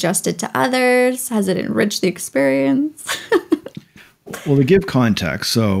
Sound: chuckles

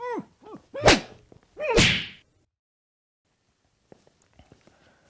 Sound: slapping sounds

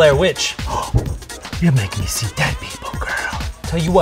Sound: gasp

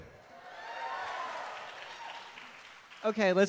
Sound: audience cheering

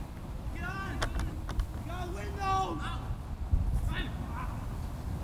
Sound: players talking and yelling

